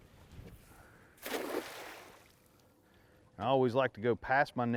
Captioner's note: net splashing